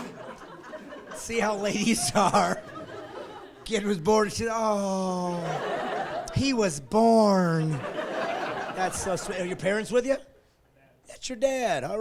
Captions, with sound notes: Thank you Judas, here's your silver, run off, you're done. (laughing) See how ladies are? The kid was born and she's "aww, "he was born."